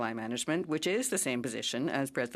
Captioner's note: speaking French